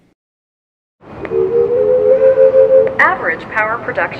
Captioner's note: steady tone